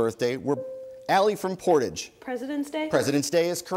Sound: bell dings

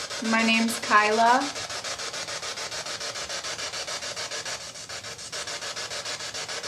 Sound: static

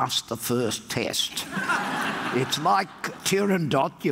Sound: audience laughs

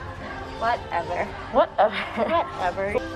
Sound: laughs

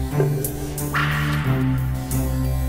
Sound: stick lashes

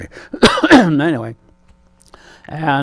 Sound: clears his throat

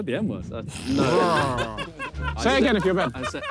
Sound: players laugh

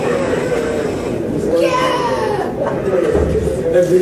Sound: a woman's scream

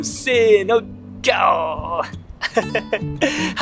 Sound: lion roar in Japanese

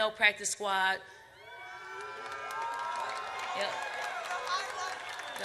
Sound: audience cheers

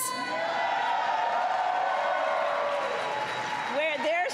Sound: applause

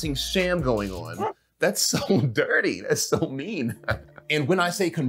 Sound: chuckles

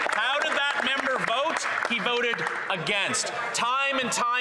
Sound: some Applause

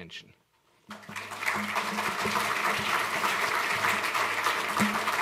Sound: applause

